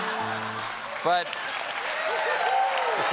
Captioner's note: applause